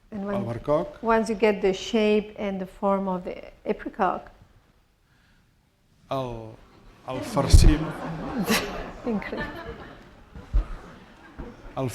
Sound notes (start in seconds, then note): 6.7 speaking spanish; 7.1 laughter; 11.0 speaking spanish